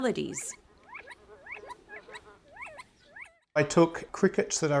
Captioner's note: recording of crickets chirping and frogs ribbiting